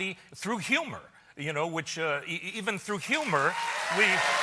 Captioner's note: cheers and applause